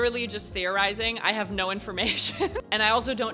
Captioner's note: chuckles